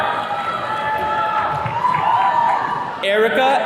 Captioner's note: attendees cheering